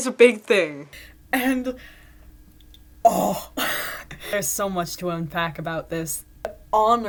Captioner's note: excitedly